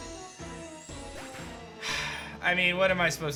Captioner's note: sighs